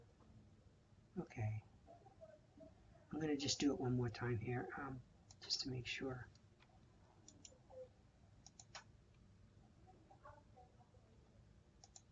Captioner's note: typing, typing, typing